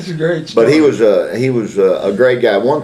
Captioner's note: laughs